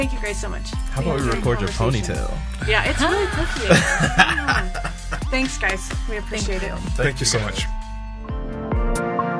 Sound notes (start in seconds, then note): 2.8 laughs